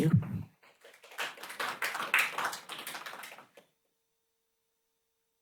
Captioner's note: applause